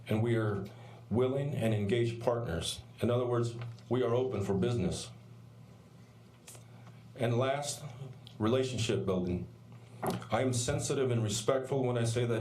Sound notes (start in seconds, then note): none